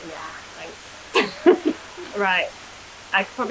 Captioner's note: laughter